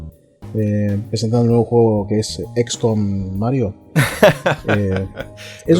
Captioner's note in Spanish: risas